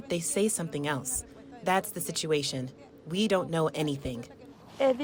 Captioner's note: speaking spanish